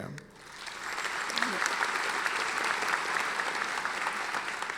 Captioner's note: audience applauding